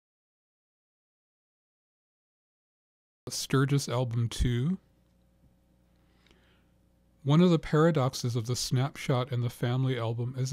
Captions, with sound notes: - [Voiceover] A sturgess album too. One of the paradoxes of this snap shot in the family album